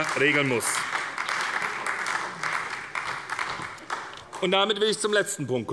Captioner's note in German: Beifall bei der SPD